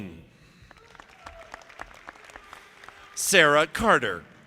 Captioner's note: audience clapping